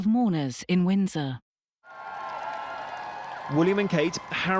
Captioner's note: crowd cheering